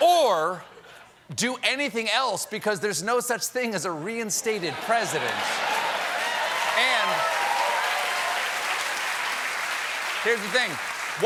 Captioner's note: laughter